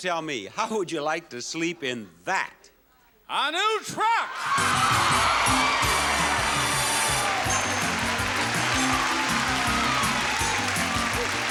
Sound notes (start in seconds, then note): 4.2 audience cheering and clapping